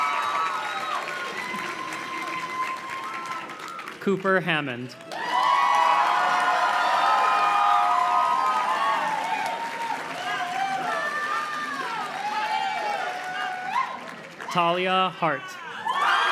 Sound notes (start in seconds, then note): 5.6 audience cheers and claps; 15.6 audience cheers and claps